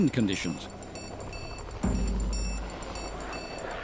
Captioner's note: helicopter flying